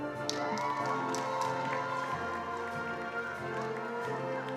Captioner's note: attendees applauding